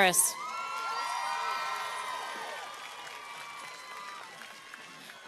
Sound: cheers and applause

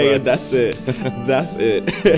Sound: laughs

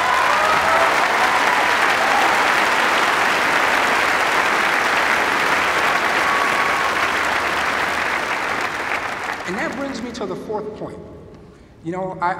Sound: cheers and applause

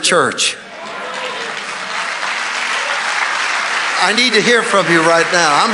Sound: congregation applauding

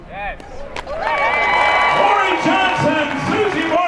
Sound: cheering

